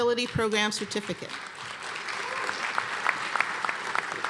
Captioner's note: applause